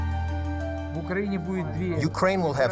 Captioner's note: speaking foreign language